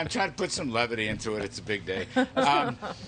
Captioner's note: laughter